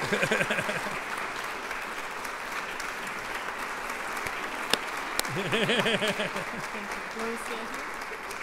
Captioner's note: applause, cheers